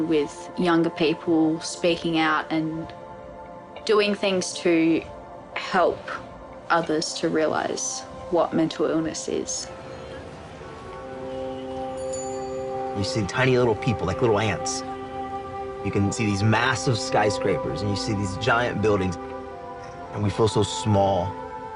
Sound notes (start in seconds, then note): 11.3 indistinct chatter